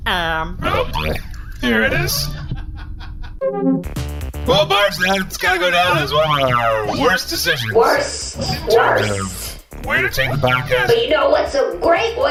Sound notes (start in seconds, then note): 8.4 shouting